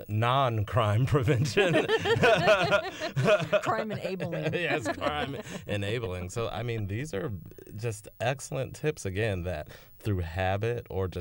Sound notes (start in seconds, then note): 1.4 laughter